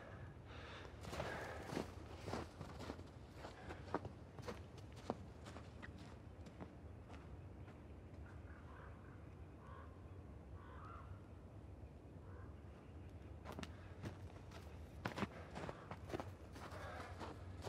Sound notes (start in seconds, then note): 2.0 footsteps walking